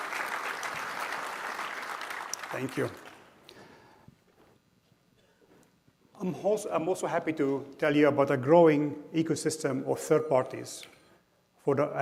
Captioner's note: applause